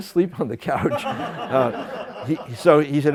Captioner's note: laughter